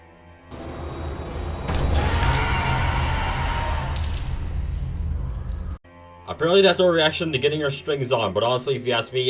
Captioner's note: demonic noises